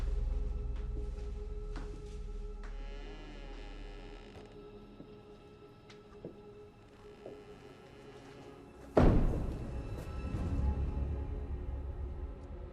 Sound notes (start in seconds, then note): 2.8 door squeaks; 8.9 door thuds